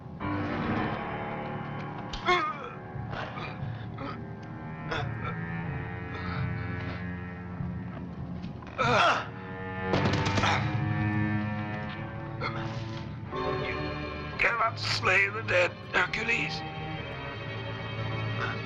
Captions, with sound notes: (grunting) - You give up slave of them, Hercules?